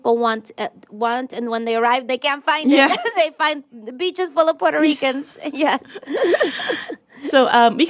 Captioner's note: laughter